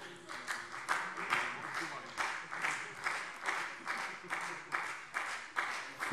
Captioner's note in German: Beifall Freie Demokraten